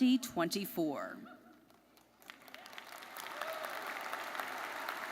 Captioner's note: crowd applauding